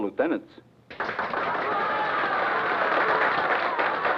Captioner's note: crowd cheers